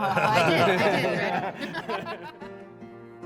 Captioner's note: laughter